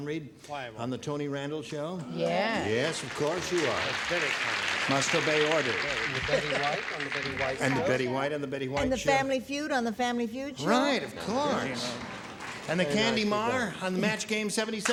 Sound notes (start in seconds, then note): 2.7 applause